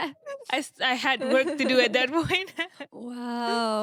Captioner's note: laughing